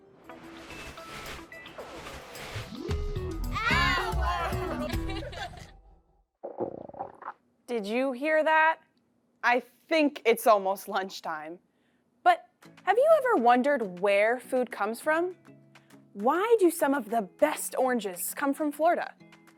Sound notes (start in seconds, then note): 0.3 intriguing music; 3.6 children laughing; 6.4 stomach growling